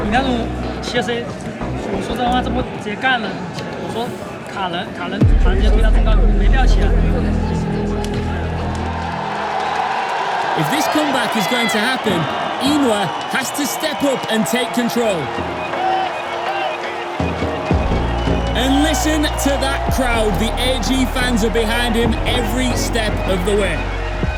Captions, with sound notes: That kind of deep dive… I said we should've just engaged right there. I said, "Body block, block them." No need to dive. [crowd cheering] [commentator in English] If this comeback is going to happen, YiNuo has to step up and take control. And listen to that crowd. The AG fans are behind him every step of the way.